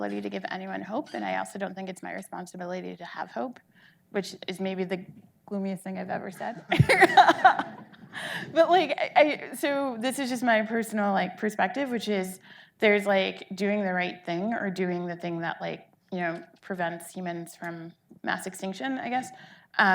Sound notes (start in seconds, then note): 6.8 audience laughing